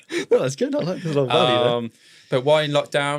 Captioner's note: both laughing; faintly speaking